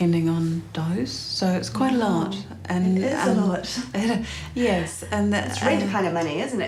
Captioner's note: chuckles